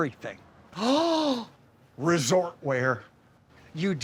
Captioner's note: sighs